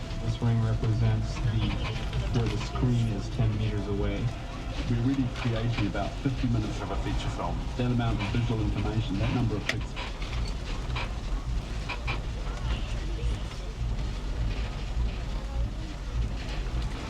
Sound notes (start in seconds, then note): 11.4 tram creaks